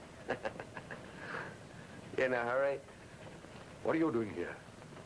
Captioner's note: chuckles